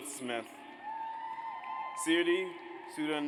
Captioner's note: audience cheers